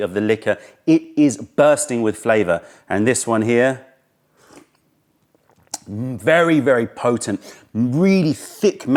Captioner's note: sips tea